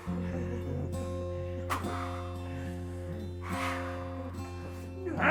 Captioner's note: clown hisses aggressively; Skull-Faced Assailant grunts